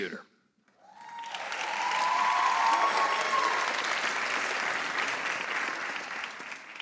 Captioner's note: audience applauds